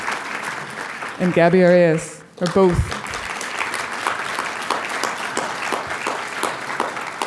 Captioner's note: audience applauding